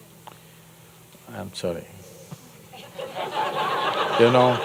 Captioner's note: laughter